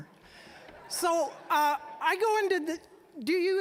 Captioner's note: audience chuckling